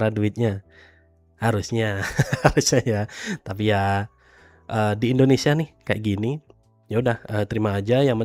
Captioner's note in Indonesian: tertawa